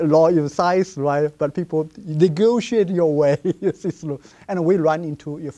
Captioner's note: laughs